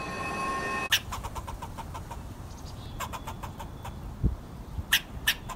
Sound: ominous music; squirrel chattering

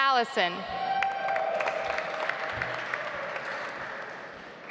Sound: audience applauds

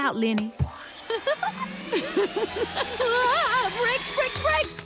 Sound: Ms. Tab giggles

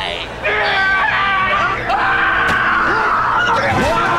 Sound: screaming

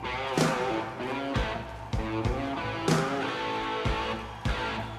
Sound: crowd cheers

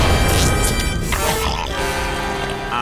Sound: grunting

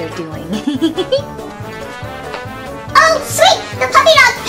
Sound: giggles

